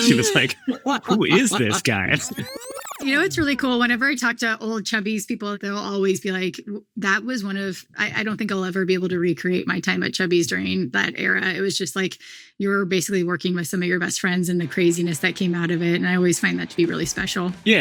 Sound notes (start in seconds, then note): 2.2 graphic buzzes